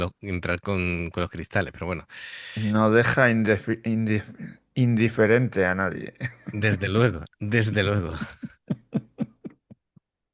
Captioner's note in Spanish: risas